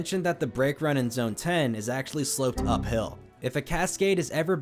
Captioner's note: Windows error sound